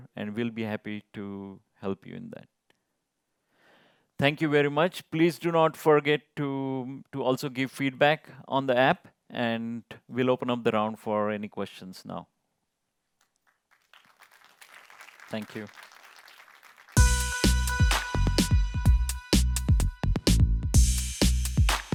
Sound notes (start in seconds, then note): 13.2 applause